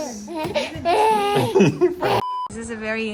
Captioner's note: baby laughing